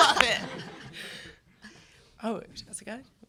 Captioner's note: laughter